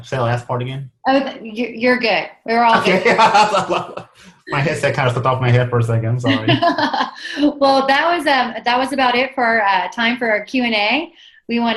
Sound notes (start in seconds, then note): 2.6 laughs